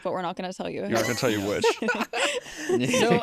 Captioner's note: laughter